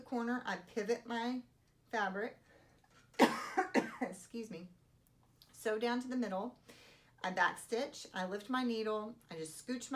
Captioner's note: cough